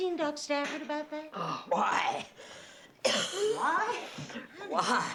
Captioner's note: coughs